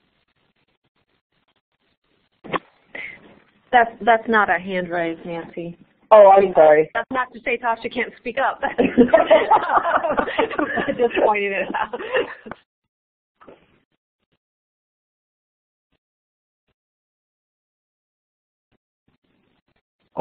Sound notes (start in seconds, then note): 0.0 silence; 11.4 laughing; 12.1 silence